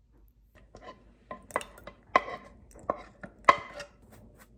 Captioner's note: pouring the soup off the pot